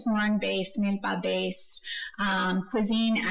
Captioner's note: speaking foreign language